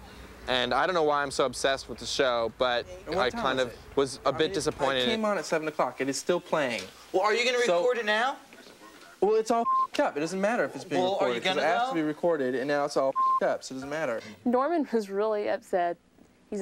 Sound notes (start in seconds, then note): 9.6 beep; 13.1 beep